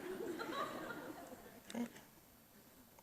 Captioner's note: audience chuckles